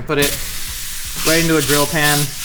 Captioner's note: burger sizzling